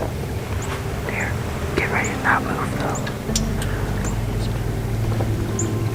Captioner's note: whispered voices